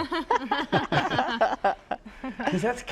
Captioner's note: laughter